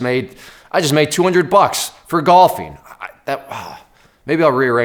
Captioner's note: sighs